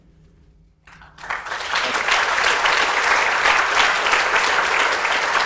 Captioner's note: audience applauds